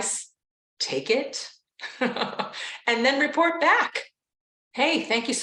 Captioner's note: laughs